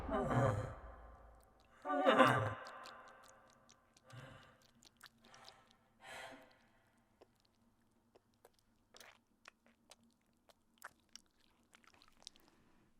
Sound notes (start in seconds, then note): 2.2 blood squelching